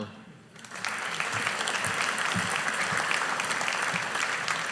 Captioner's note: audience applauding